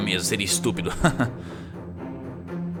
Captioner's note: chuckles